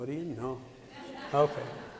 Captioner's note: laughter